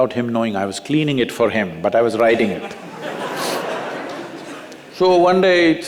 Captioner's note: laughter